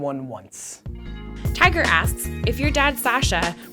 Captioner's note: voiceover